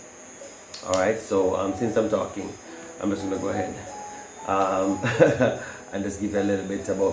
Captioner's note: nervous chuckle